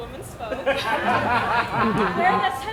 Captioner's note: audience laughs